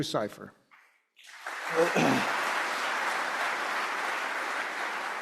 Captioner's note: audience clapping